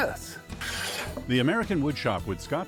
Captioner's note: saw whirring